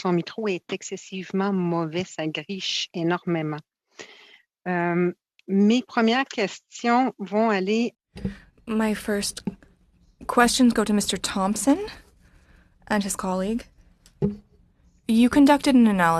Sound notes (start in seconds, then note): 2.4 speaking French